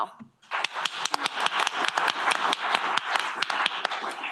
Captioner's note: applause